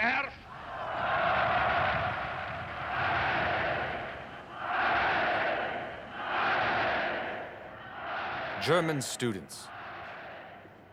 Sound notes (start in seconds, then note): 0.5 crowd cheering; 4.4 crowd shouting